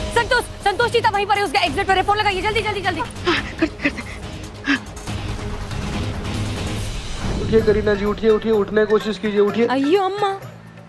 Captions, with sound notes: Santosh and Cheetah are at that exit. Call them quickly! [exhales] Get up, Kareena. Try to stand up.